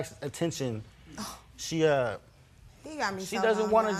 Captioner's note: scoffs